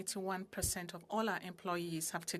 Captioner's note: speaking French